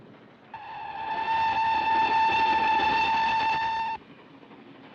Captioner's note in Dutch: fluitje blaast